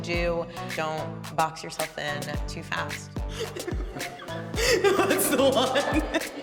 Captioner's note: laughs